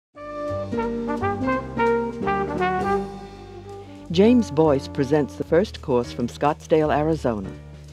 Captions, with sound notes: (jazzy music) - [Voiceover] James Boyce presents the first course from Scotsdale, Arizona.